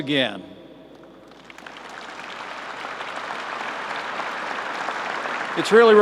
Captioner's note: applause